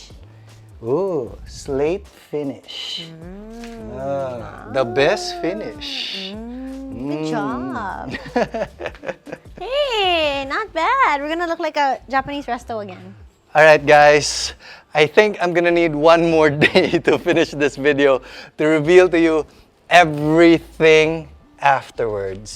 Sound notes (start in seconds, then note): 8.1 laughs